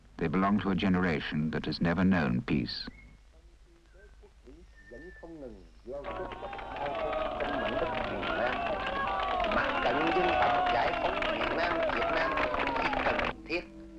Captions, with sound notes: They belong to a generation that has never known peace. (speaking foreign language) (cheering and clapping)